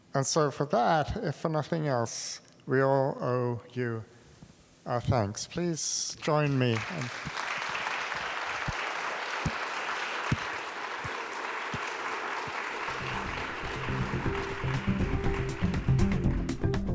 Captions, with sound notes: And so for that, if for nothing else, we all owe you our thanks. Please join me. (clapping) (acoustic music)